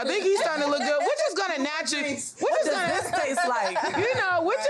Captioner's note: all laugh out loud